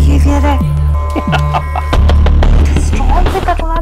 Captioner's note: Man laughing